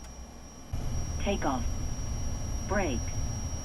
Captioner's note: aircraft